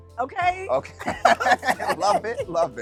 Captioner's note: laughing